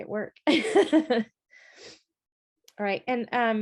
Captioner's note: chuckles